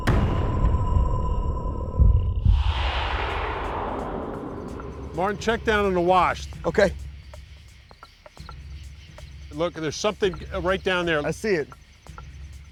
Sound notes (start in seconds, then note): none